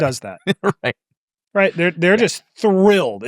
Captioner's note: laughs